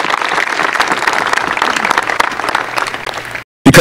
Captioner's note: applause